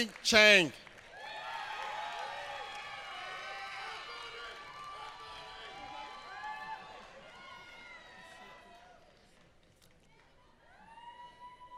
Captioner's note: applause